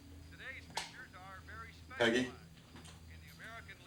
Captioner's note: sound from tv continues